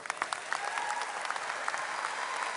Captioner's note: applause